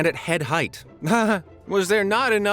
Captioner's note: chuckles